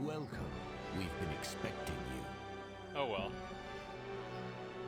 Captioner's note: none